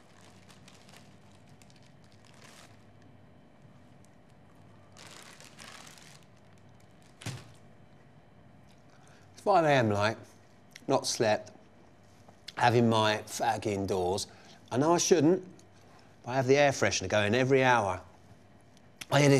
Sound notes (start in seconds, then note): 0.0 packet rustling; 7.3 packet thuds